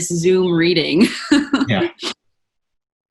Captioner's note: chuckling